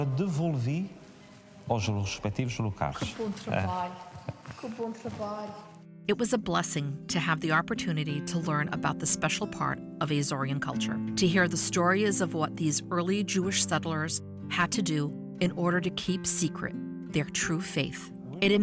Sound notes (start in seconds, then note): 3.2 speaks in foreign language